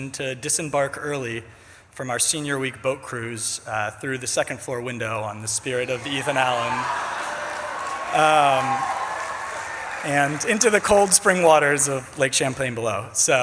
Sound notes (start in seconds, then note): 7.0 audience laughs and cheers